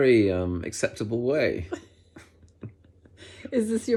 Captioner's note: both laugh